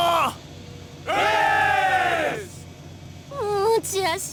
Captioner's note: cheers